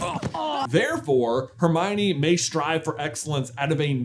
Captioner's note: groan of whimp-ery